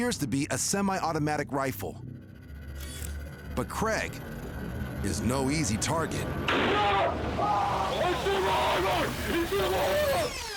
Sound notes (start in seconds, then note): 6.5 gunshot; 6.5 screaming